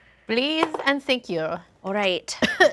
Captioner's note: dice roll; coughs